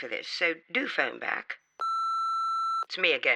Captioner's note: end of message beep